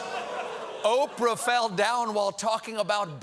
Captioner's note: audience reacts